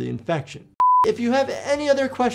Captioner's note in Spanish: pantalla pitando